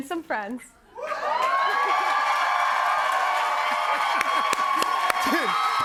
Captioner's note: cheers and applause